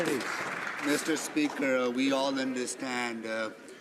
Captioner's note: some Applause